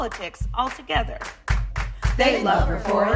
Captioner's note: clap clap clap